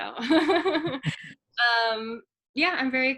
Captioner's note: laughs